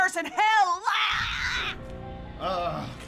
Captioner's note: shrieks